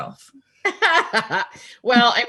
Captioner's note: laughing